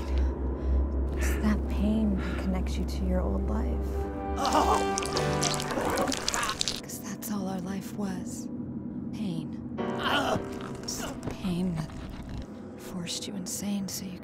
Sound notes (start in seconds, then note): 4.3 groaning; 4.4 squishing